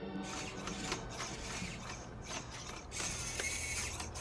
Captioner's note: squeaking